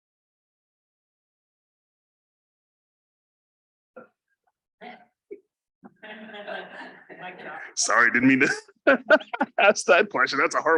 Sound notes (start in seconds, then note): 6.0 presenters laughing